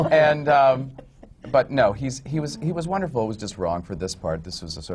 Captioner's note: laughter